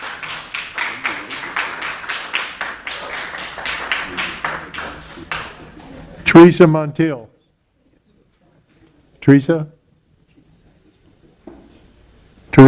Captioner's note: applause